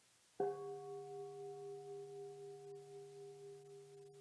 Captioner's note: bell dinging